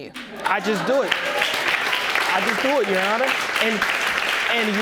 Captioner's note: audience clapping